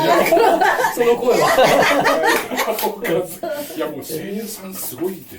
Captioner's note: laughs